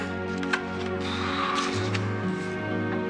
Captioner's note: exhales